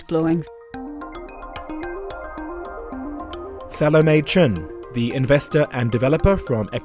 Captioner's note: voiceover